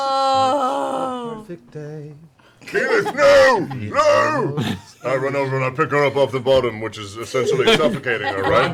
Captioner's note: shouting